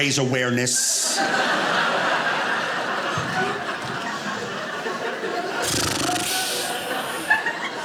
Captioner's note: audience laughing